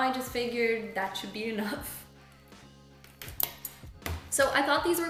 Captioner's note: clanking